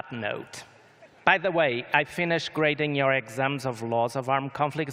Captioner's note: laughter